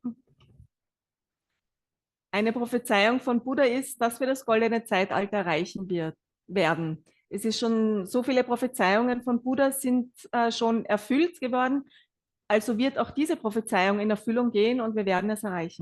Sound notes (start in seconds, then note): 1.8 German live translation